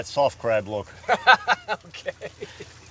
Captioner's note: laughs loudly